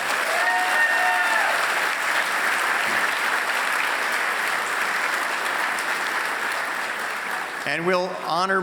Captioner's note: applause